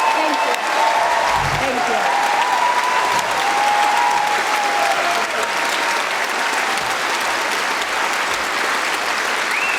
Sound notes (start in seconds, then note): 6.7 cheering & Applause